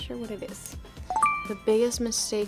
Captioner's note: bell chiming